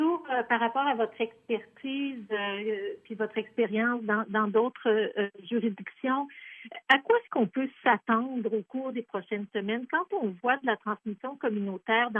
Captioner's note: speaking in French